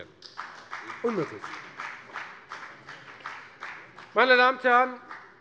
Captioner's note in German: Beifall bei der FDP